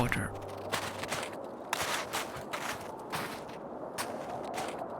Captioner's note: snow crunching